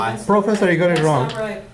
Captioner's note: voiceover